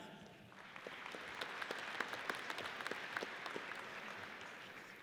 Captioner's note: audience applauds